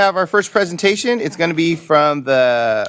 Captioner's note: laughter